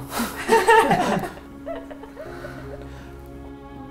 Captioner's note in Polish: śmiech